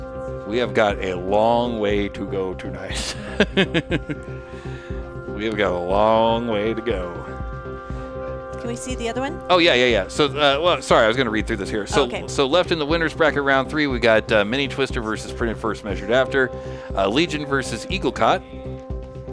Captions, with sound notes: We have got a long way to go tonight. (laughing) We've got a long way to go. Can we see the other one? Oh yeah, yeah, yeah. So, well, sorry, I was gonna read through this here. Okay. So left in the winners bracket round three, we got mini Twister versus Printer first measured after, Legion versus Eaglecott.